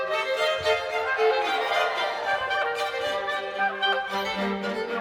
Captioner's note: crowd cheering; bouncy music